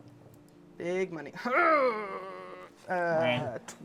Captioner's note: groans